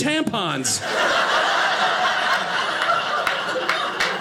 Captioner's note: audience laughing